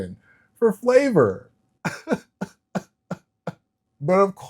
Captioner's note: laughs